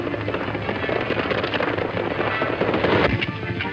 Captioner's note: hooves clopping